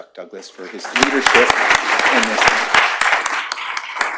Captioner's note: applause